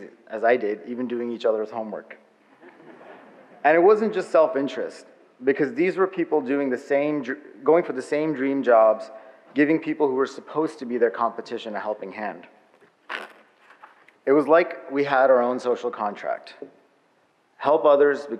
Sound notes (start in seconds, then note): 2.5 audience laughs